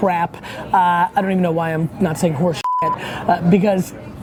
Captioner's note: beep